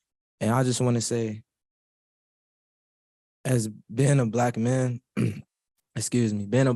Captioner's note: clears throat